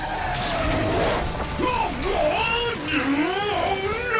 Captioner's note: exclaiming